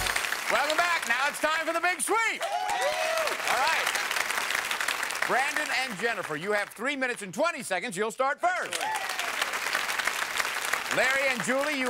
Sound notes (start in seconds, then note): 2.1 cheering